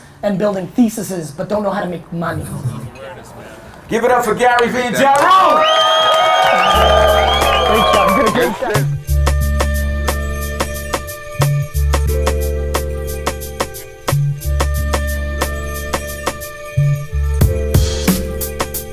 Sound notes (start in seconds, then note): 5.6 audience cheering; 9.8 bright music